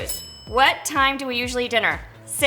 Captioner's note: bell dings